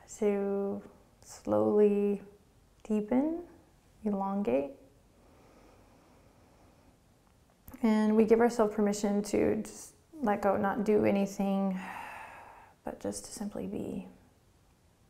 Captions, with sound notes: to slowly deepen, elongate. And we give ourself permission to just let go, not do anything. (exhaling) But just to simply be.